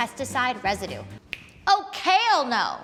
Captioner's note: finger snapping